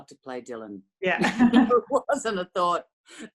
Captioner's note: laughter